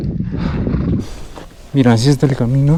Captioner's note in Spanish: jadeo